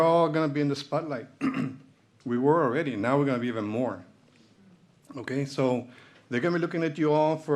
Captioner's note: clears throat